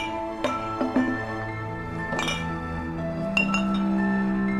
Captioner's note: glasses clink